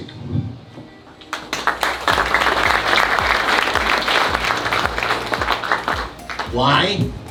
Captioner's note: applause